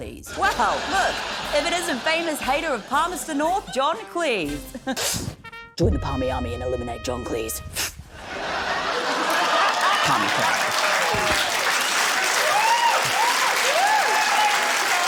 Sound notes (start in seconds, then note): 5.0 chuckles; 8.2 laughter; 11.1 cheering, applause